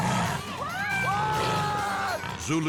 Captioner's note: lion lashing out; screaming; spectators screaming; screaming